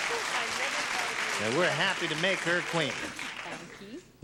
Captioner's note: applause